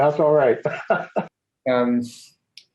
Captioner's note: laughs